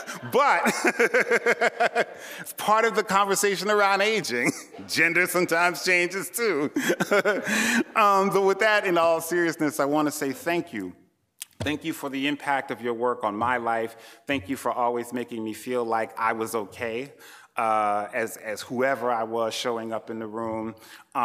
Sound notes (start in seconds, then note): 0.0 laughing; 0.0 laughter; 6.6 chuckles